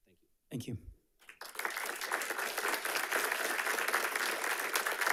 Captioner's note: audience applauding